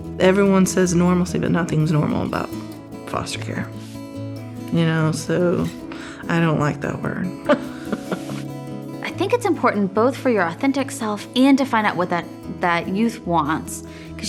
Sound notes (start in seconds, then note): 7.5 laughing